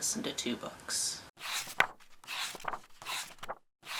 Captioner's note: pages turning